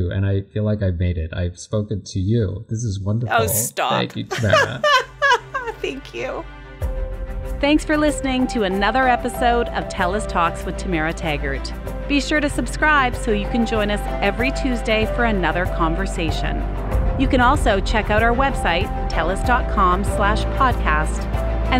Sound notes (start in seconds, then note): 3.3 laughs; 6.8 soft music